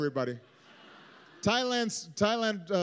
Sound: laughter

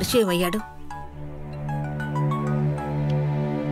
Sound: cell phone rings

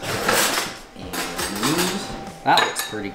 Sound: clinking

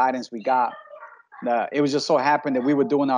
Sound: background chattering

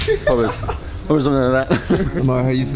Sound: laughter

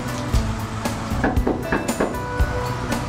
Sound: knocks on door

